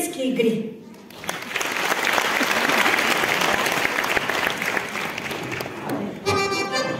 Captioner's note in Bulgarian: аплодисменти